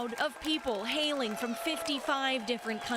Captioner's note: applause